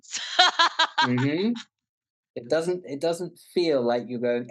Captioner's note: laughing